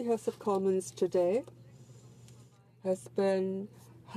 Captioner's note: speaking French